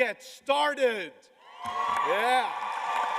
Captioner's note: cheers and applause